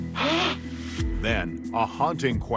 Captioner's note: gasps